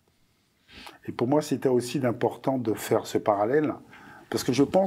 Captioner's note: non-english speech